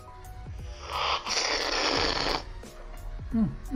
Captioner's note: slurping